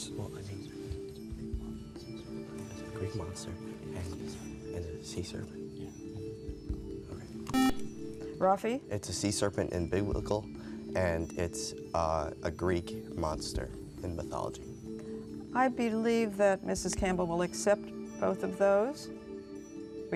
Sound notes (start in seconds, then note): 1.0 whispering